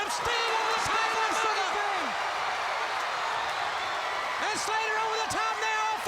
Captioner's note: commentators exclaim; crowd cheers